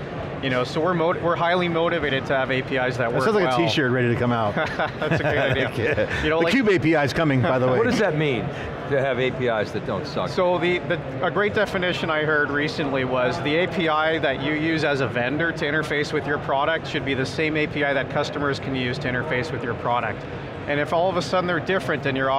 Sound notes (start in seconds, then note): 4.5 laughs